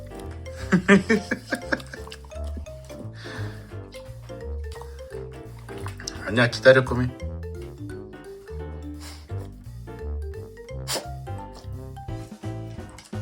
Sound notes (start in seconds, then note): 0.5 laughs